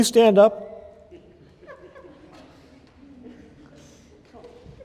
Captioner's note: laughter